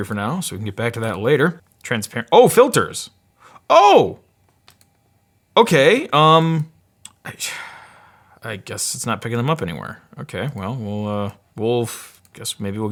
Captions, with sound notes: for now so, we can get back to that later. Transparent, oh filters, oh! Okay, um, I just, (sigh) I guess it's not pickin' um up anywhere. Okay, well we'll uh, we'll, guess maybe